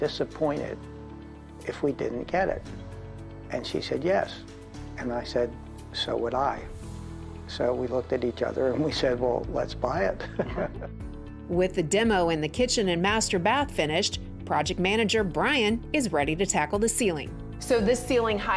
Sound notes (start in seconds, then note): 10.2 laughs